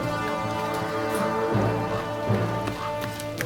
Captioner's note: leaves rustling; horn blowing